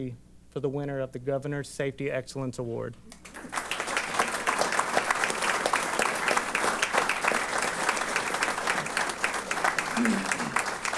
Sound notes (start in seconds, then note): 3.2 applause